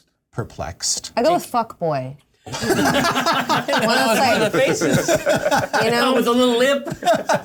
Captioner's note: laughter